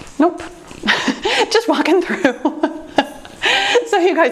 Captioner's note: laughs